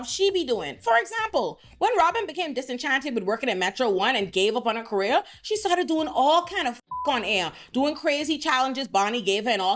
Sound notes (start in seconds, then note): 6.8 beep